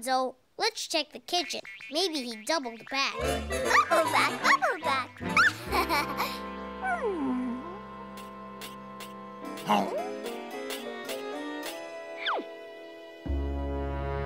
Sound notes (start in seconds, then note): 9.6 growling